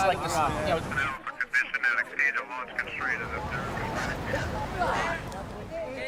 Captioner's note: garbled radio transmission